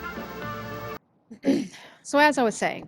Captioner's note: ahem